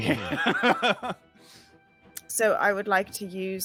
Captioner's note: chuckling